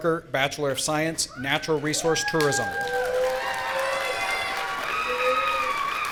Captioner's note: audience cheering